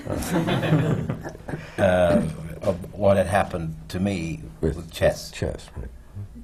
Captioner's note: laughter